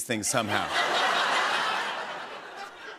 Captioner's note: laughter